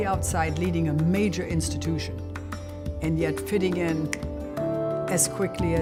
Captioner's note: snap